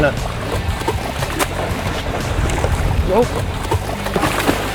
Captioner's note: fish splashing in water